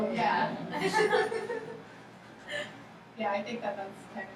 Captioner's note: laughing